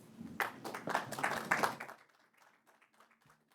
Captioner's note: attendees applauding